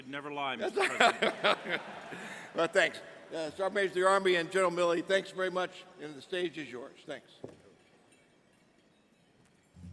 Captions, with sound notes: and you should never lie, Mr. President. - (Laughs) Well, thanks. Sergeant of the Army and General Milley, thanks very much, and the stage is yours. Thanks.